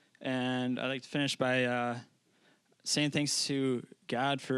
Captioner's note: none